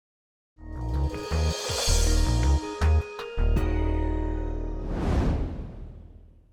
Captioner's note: jazz music; logo whooshing